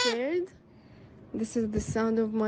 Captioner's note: child crying